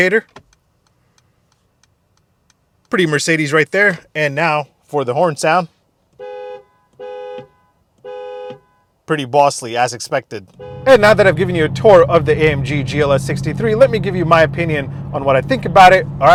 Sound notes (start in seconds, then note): 0.3 switch shifting; 1.4 car rapidly blinking; 6.1 car honking multiple times